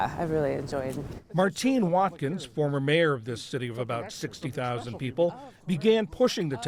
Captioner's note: voice-over